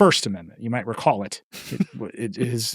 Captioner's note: laughing